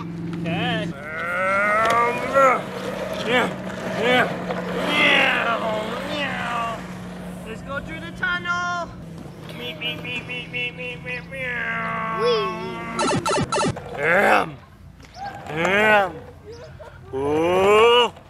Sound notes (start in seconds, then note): 0.9 intermittent grunting; 12.9 Game Boy Sound Effect; 14.0 grunting